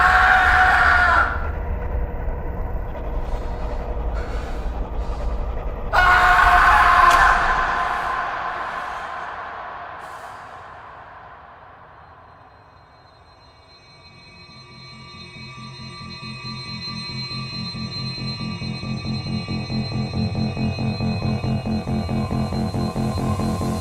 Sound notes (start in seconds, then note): 0.0 screams; 5.8 screams echo away; 21.0 dramatic music plays